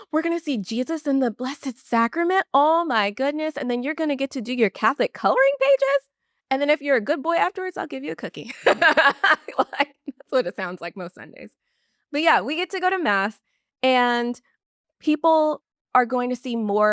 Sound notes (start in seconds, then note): 8.4 laughs